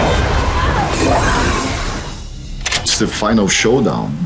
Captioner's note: glass shattering